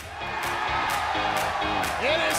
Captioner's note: crowd cheering